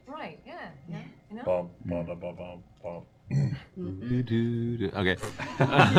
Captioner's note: hums the intro